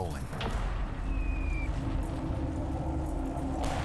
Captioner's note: repeated explosions